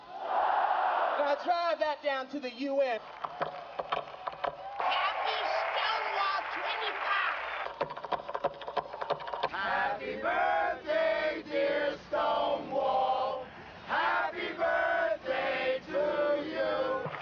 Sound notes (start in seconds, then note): 0.3 crowd; 3.2 loud tapping; 7.6 loud tapping continues; 10.5 singing; 14.7 singing